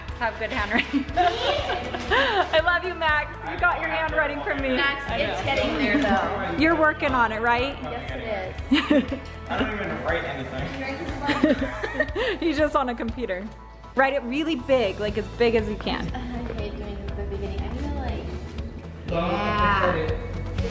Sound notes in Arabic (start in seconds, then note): 0.8 أمي تضحك; 8.7 أمي تضحك; 11.2 أمي والفتيات يضحكن; 20.5 تبدأ الموسيقى المبهجة